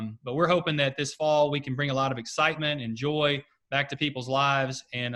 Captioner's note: none